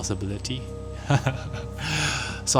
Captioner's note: nervous chuckle